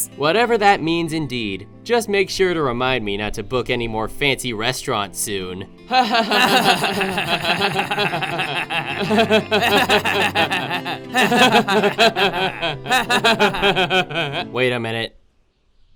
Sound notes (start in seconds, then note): 10.8 laughing